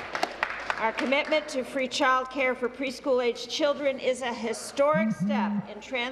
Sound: applause

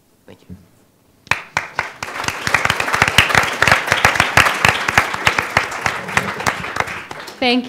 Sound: applause

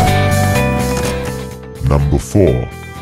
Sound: male Voice

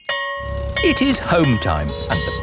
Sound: school bell ringing

